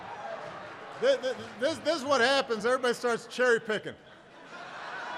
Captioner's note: laughter